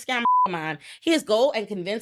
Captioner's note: beep